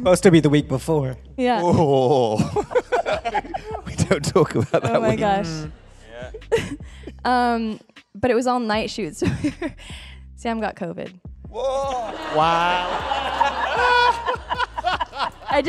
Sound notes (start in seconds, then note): 3.2 laughing; 13.3 laughing